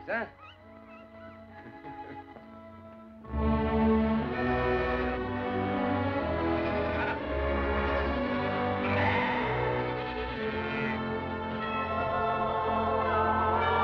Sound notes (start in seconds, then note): 0.3 puppies Whimpering; 3.0 mooing; 6.3 bleating